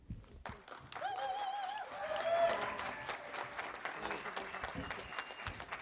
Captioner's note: audience applauding and cheering